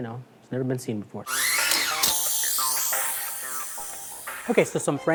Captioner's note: air spraying